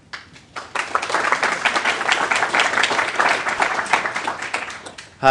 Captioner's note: applause